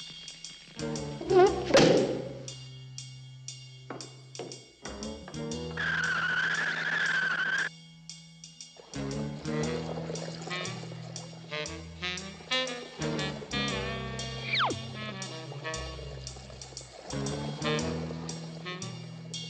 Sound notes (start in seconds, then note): 5.7 screech